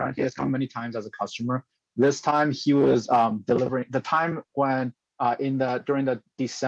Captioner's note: speaking chinese